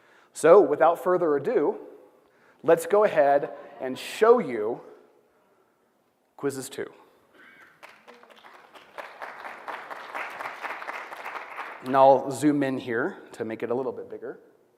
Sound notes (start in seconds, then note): 7.6 applause